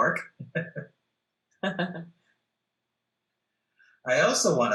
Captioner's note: laughs